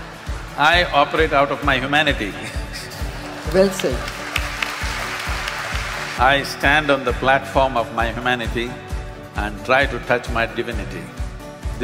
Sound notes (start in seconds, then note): 0.0 laughter; 3.0 applause